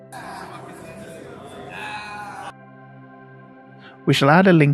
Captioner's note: people chatting